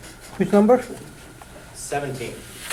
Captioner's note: voiceover